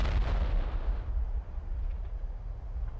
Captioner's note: huge explosion